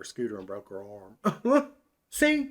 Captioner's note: chuckles